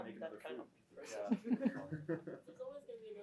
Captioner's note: laughter